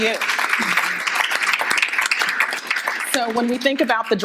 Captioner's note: audience applauding